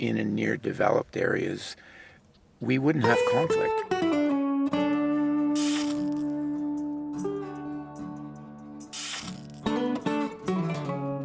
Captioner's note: electricity sounds